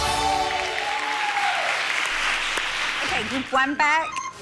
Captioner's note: cheerleaders applaud